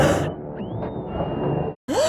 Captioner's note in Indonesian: Menjerit